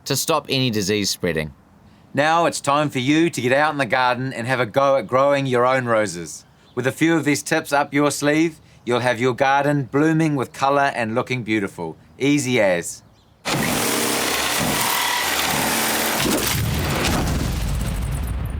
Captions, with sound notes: to stop any disease spreading. Now it's time for you to get out in the garden and have a go at growing your own roses. With a few of these tips up your sleeve, you'll have your garden blooming with color and looking beautiful, easy as. [SAWING SOUND EFFECT]